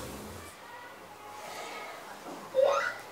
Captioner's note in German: Kinderstimmen